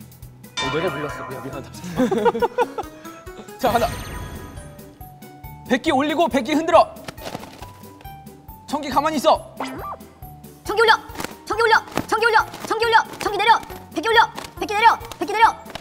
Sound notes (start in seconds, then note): 1.8 kekeke; 1.8 kekekekeke; 7.0 flap